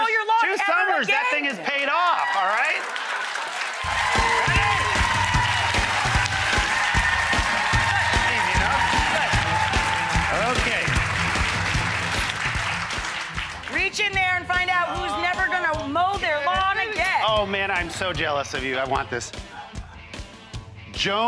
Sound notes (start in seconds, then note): 2.5 audience clapping and cheering; 6.3 audience cheering